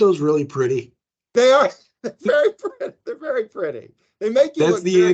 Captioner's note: laughing